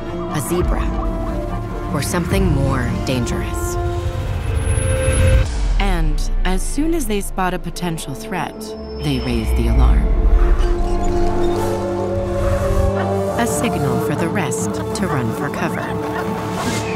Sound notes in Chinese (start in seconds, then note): 10.3 掠食者嘶吼聲及 狐獴叫聲